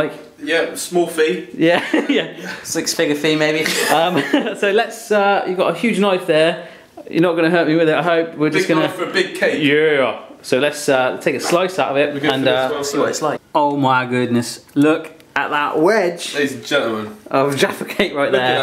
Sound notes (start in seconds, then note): 3.6 laughing